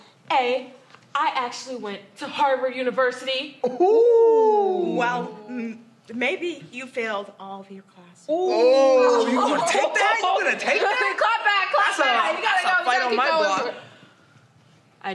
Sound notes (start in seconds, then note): 8.7 laughing